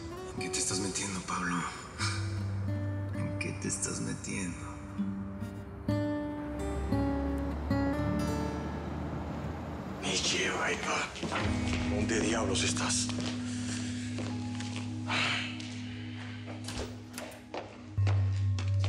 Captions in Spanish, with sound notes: ¿EN QUÉ TE ESTÁS METIENDO, PABLO? ¿EN QUÉ TE ESTÁS METIENDO? [SONIDO DEL MOTOR] [HABLA ENTRE DIENTES] >> ¿DÓNDE DIABLOS ESTÁS? [SUSPIROS]